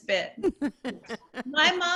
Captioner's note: laughter